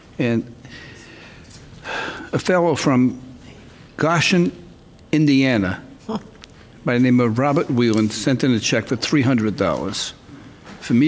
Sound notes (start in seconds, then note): none